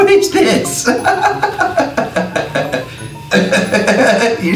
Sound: laughing

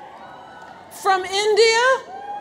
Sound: audience cheers

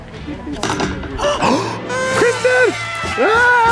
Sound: gasping; kazoo blowing

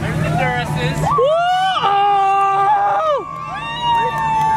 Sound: screams

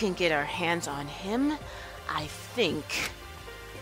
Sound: none

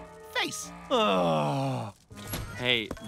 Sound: groaning

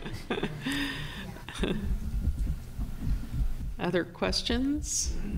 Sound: laughter

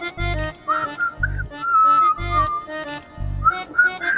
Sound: whistling

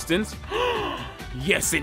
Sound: gasp

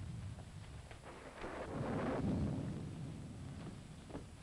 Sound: thunder rumbling

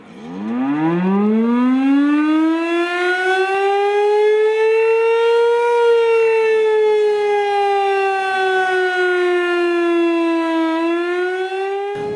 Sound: sounds of tsunami warning sirens outdoors

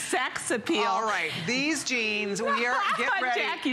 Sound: laughter

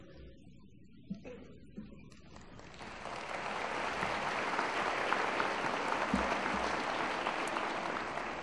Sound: applause

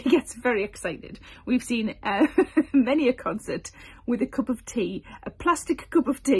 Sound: chuckles

